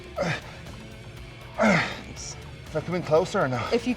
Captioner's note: Sheamus grunts